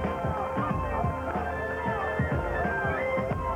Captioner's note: cheering, chatter